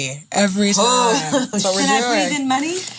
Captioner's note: laughing and shushing